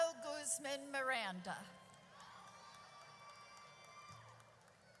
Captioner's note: audience cheers